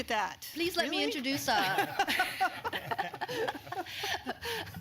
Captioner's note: laughter